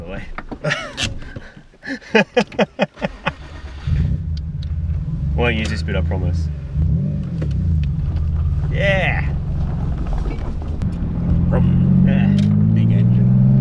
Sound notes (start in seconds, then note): 0.2 laughs; 0.9 handbrake clicks; 1.8 laughs; 3.0 engine starts; 11.6 engine accelerates